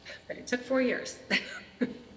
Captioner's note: chuckles